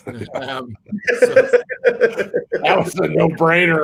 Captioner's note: laughs